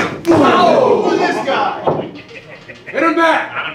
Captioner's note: audience cheering